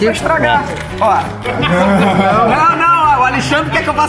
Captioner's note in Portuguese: risadas